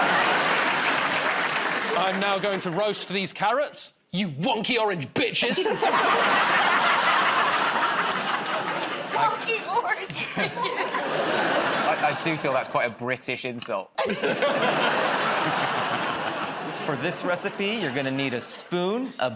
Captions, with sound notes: [ Applause ] -I'm now going to roast these carrots. You wonky orange bitches! [ Laughter ] -"Wonky orange bitches"! -I do feel that's quite a British insult. [ Laughter ] -For this recipe, you're gonna need a spoon,